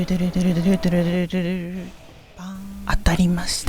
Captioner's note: self-made sound effect